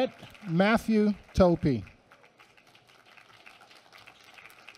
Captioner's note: applause